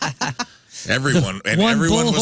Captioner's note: laughing